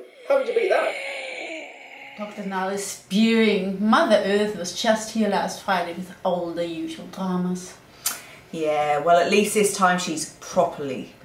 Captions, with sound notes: How could you beat that? (oxygen mask breathing sound) Dr Nile is spewing! Mother Earth was just here last Friday with all the usual dramas. Yeah well at least this time she's properly sick.